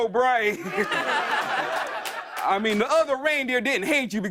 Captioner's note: laughter